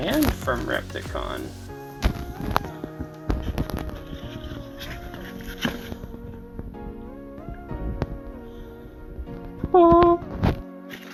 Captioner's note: magical sound